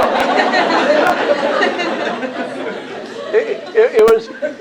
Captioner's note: laughter